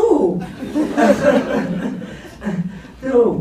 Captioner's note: laughs